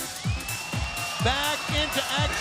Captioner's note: crowd cheers